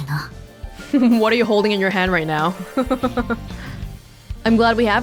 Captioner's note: chuckles